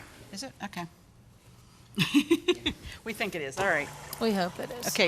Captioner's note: laughs